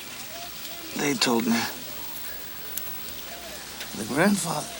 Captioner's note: Ned gasps